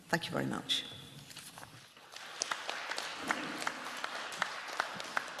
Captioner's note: applause